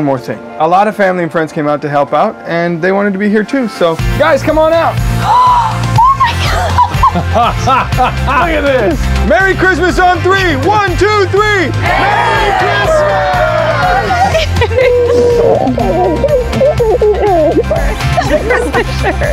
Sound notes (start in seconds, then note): 5.4 gasps; 6.0 laughs